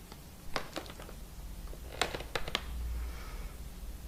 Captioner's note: floorboards creak in the hallway